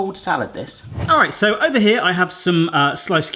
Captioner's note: whoosing